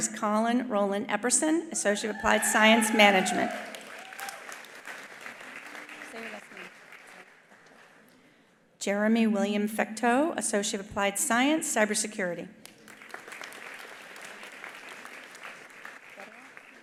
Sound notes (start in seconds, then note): 2.0 attendees cheering; 4.5 attendees applauding; 12.6 attendees applauding